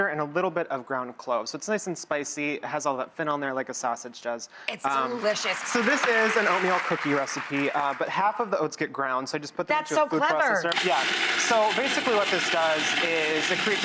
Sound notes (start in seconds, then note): 4.9 audience clapping